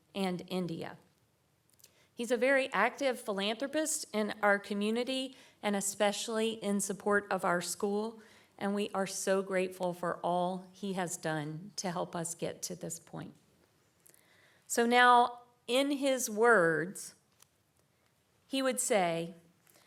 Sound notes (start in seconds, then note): none